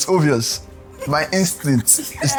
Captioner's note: laughs